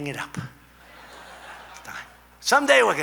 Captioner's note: laughter